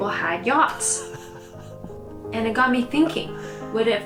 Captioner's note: laughs